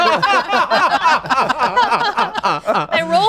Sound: everyone laughing

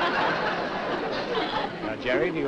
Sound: laughter

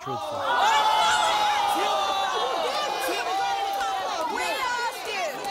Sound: cheers

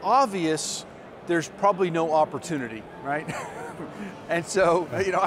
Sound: laughs

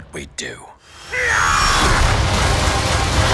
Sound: screaming

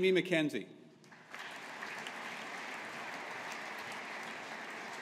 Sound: audience applauding

